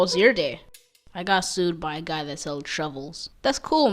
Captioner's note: in a serious tone